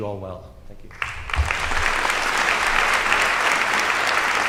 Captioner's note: audience applause